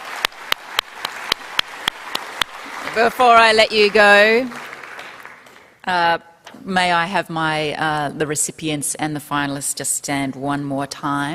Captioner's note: applause